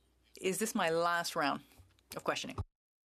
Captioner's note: speaking French